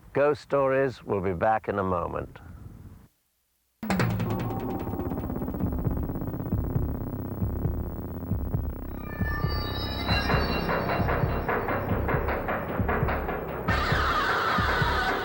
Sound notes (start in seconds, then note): 3.9 mysterious music; 6.2 heart beating